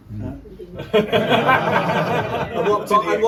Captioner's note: crowd laughs